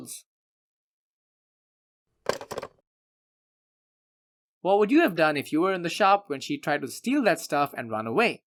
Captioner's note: hangs up